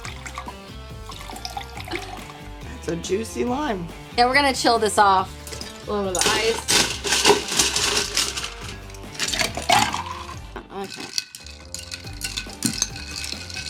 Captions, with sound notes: (liquid pouring) That's a juicy lime. - Then we're gonna chill this off, little bit of ice. (hitting ice) (ice splashing liquid) (stirring ice and liquid)